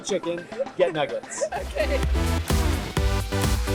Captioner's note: laughs; energetic electronic music